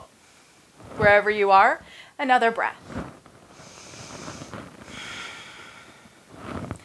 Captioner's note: breaths heavily